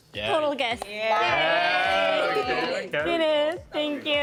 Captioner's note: cheering